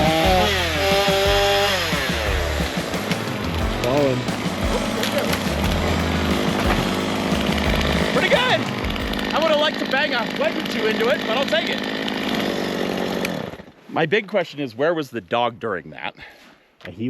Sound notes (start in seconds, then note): 0.1 saw whirring; 4.9 tree cracking